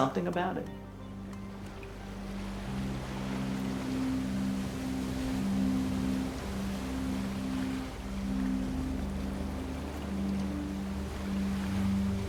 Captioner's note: water and wind rushing